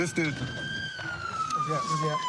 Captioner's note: siren wailing